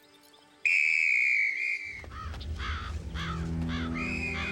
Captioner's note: whistle tooting